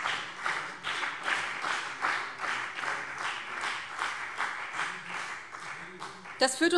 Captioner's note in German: Beifall BÜNDNIS 90/DIE GRÜNEN und CDU